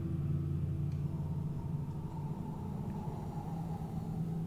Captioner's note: labored exhaling